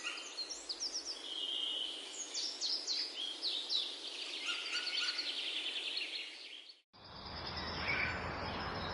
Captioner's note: birds chirping